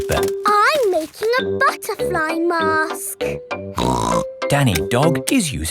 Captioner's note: snorts